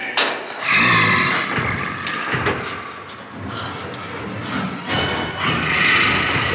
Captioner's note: Donald growling; dramatic music